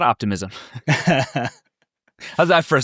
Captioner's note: people laughing